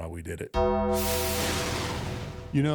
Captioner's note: bell tolls; thunder rumbles